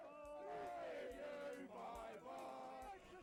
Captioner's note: crowd